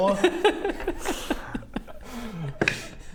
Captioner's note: bemused laugh